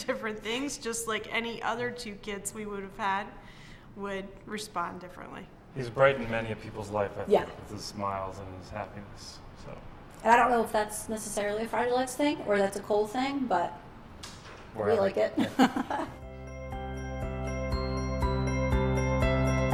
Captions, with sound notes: to different things just like any other two kids we would've had would respond differently. - He's brightened many a people's life, I feel, with his smiles and his happiness. - And I don't know if that's necessarily a Fragile X thing or that's a Cole thing but we like it. (laughs) (light uplifting music)